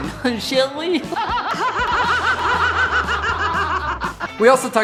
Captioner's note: Tallulah Bankhead laughs, then Cruella laughs